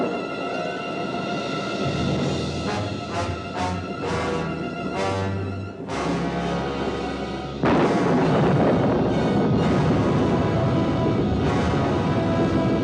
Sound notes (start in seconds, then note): 6.7 thunder continues rumbling